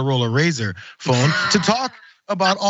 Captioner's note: laugh